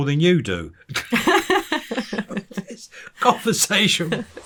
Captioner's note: interviewer laughing